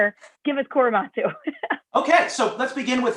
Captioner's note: laughter